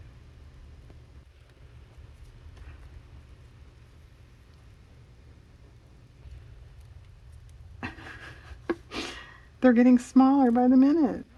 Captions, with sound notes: (laughs) they're getting smaller by the minute